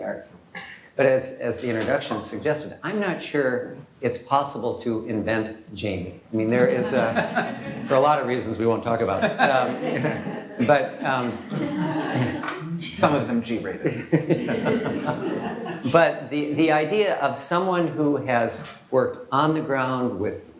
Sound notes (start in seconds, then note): 6.6 laughter